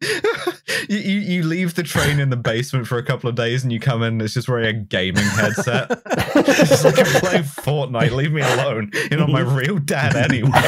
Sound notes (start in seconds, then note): 0.0 laughs; 5.1 laughter